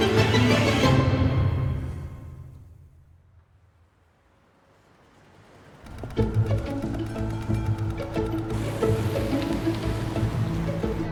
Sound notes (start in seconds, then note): 6.9 traffic murmuring